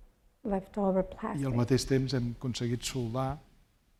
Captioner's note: speaking spanish